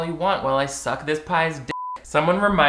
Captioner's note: beep